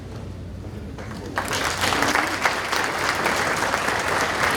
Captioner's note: audience applauding